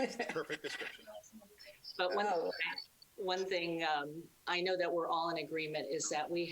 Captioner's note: laughing